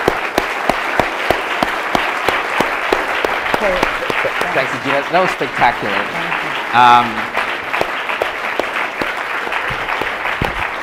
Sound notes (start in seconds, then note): 0.1 audience applause; 7.2 applause continues